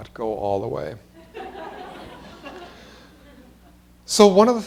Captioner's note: laughter